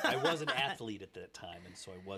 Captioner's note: laughing